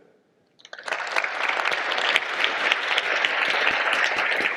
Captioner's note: audience applause